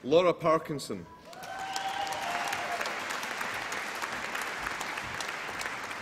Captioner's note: applause and cheering